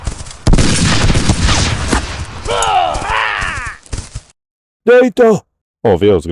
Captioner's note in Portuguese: grito